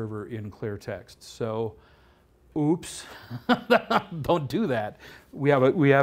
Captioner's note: laughs